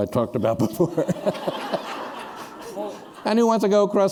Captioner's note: laughter